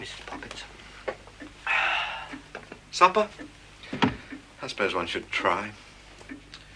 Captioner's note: exhaling